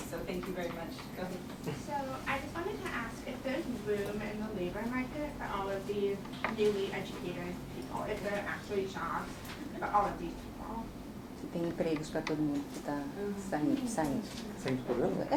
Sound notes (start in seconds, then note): 11.4 speaking portuguese